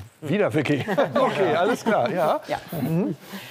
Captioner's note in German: lacht